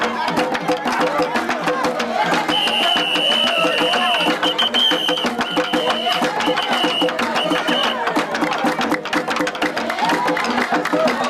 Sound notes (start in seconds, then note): 2.4 whistle blowing